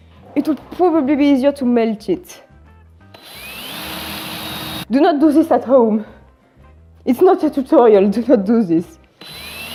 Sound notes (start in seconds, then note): 3.1 drilling intensifies; 9.2 drilling resumes